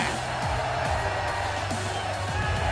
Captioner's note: cheers & applause